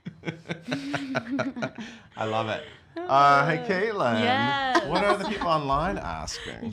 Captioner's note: laughs